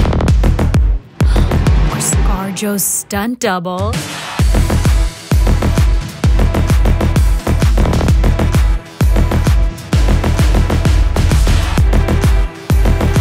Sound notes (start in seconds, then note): 1.2 gasps